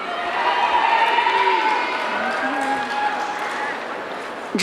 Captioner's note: audience cheering